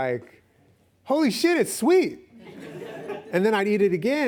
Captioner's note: laughs